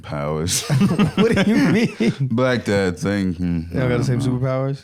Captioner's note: laughing